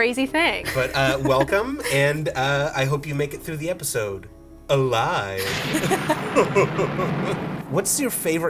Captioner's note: thunder clap